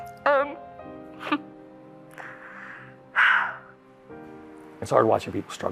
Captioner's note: sobs and sighs